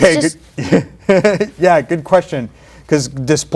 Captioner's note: laugh